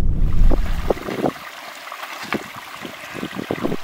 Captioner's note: running river water